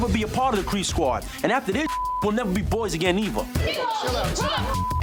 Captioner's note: beep